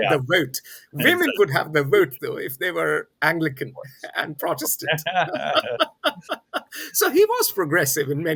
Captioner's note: both laugh